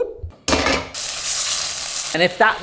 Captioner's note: pan sizzles